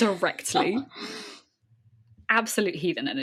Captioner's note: laughs